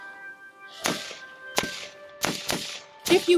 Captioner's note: shots firing